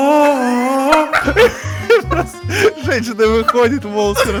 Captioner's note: laugh